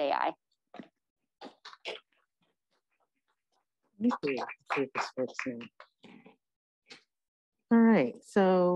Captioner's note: applause